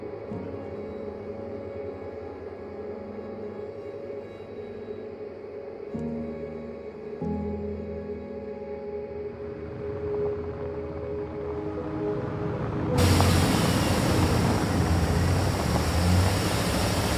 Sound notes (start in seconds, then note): 13.1 engine humming